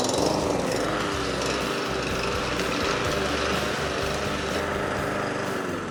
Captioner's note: engine buzzes